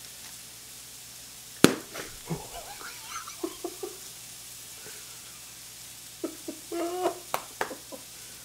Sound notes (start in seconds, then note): 1.6 pop sound; 1.9 laughing